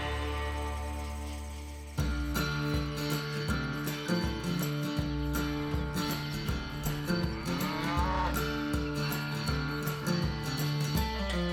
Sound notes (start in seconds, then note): 7.6 cow moos